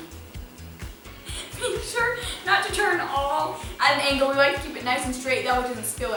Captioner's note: laughter